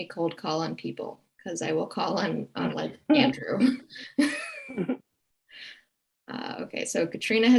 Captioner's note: chuckles